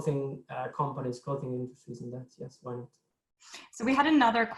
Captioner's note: speaks faintly